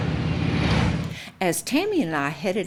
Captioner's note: engines roar